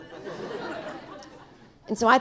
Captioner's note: audience laughing